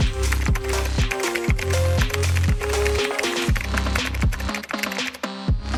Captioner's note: typing Noises